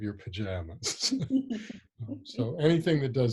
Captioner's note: laughing